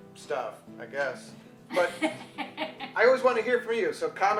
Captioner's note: woman laughs